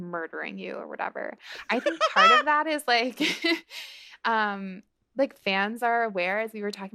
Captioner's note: laughter